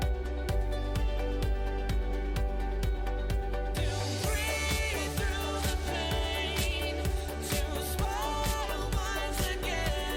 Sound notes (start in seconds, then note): none